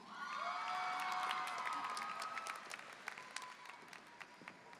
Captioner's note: audience applauding